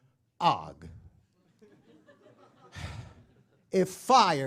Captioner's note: laugh